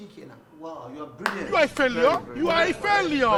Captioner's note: claps